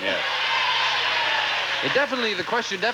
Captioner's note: audience applauding